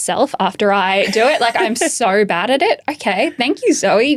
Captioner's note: chuckling